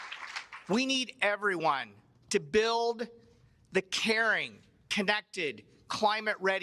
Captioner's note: cheers and applause